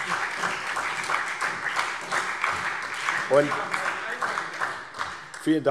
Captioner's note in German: Heiterkeit und Beifall